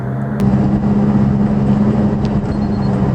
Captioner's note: engine, air conditioner blower on "high", interior creaking sounds